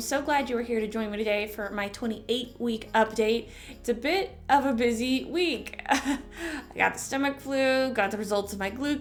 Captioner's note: chuckle